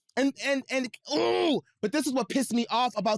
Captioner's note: groans